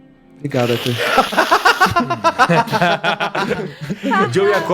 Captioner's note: laughs